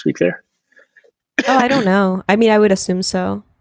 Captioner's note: clears throat